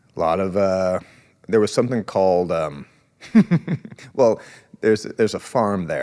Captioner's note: laughs